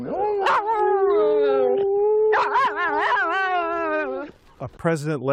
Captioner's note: howling